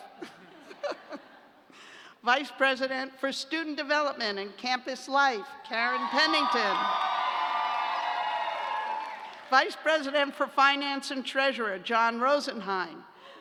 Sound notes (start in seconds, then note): 0.0 laughter; 5.8 cheers and applause